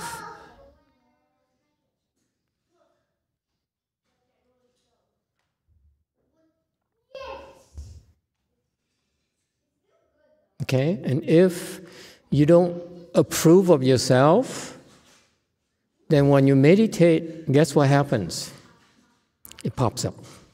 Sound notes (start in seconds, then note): none